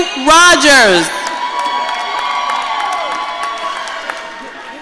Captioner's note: audience cheering